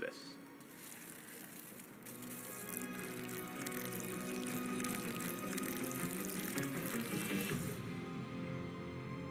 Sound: liquid pouring

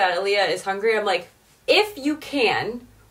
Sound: rustling

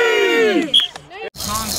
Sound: whistle blows

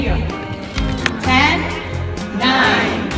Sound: crowd counts down

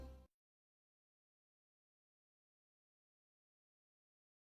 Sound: silence

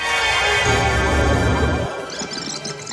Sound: suspenseful music; nanoporter whirring; squeaky tape fast-forwarding

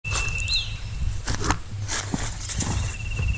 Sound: footsteps

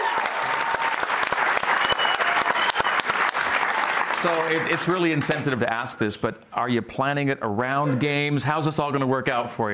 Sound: cheers and applause

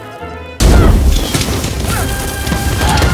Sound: explosions

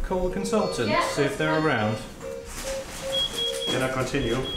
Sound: beeping

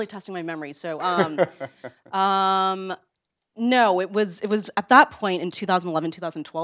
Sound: laugh

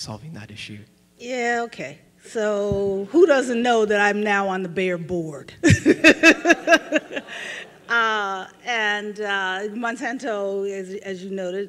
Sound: laughs

